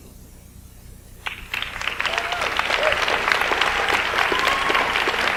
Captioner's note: audience applauds